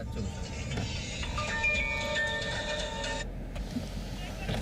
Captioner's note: cellphone chiming